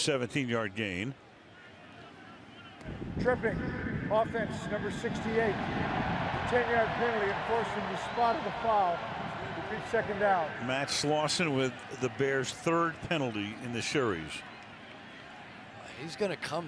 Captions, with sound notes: Would have been a 17-yard gain. Tripping, offense, number 68. [cheering] 10-yard penalty enforced from the spot of the foul. Repeat second down. Matt Slauson with the Bears' third penalty in the series.